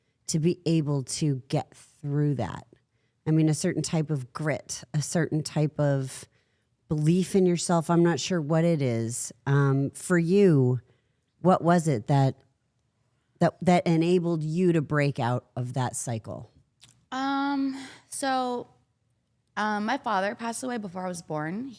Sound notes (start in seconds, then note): none